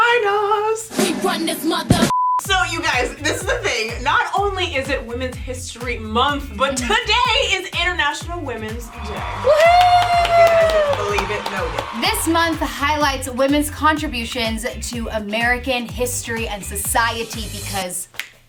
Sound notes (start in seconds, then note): 2.1 beep; 8.8 cheering; 18.2 snaps